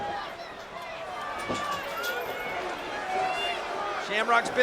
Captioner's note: crowd shouting